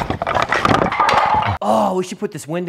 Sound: wood clattering

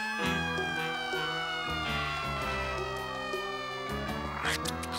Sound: sirens wailing

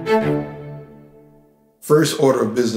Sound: music Stops

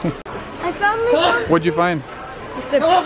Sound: man sneezing

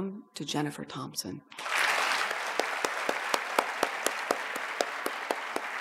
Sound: audience applauds

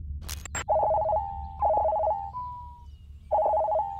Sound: cell phone rings

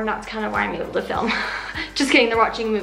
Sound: laughs

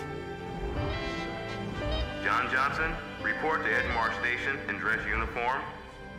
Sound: man over P.A

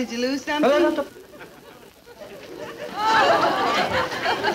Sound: audience laughing

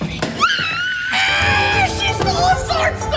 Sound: screams

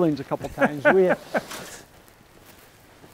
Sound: laughs

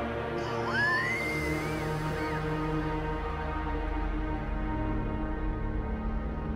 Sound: wheezes

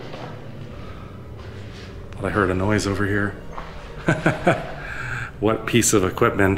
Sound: laughs

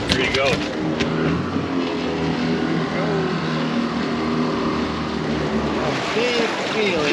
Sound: water lapping

